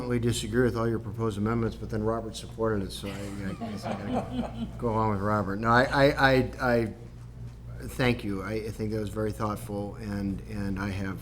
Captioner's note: laughter